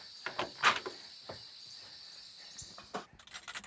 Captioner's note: door opens